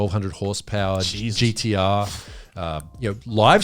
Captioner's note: all laughing